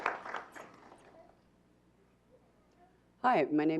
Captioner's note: clapping